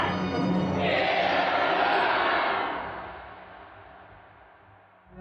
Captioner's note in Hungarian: tömeg